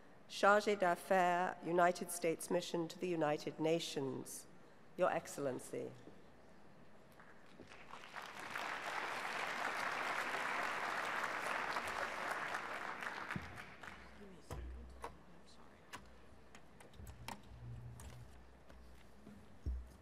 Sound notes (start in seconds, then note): 7.5 applause